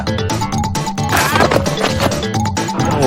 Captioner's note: exclaims